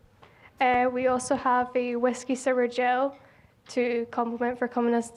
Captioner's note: with Scottish accent